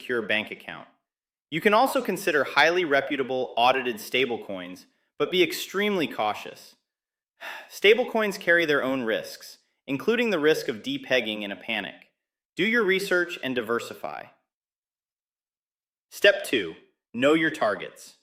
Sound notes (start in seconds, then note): 7.4 sighs; 14.5 pause